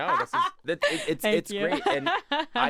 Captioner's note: laughs